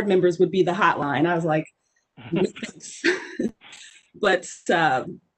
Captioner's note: scoffs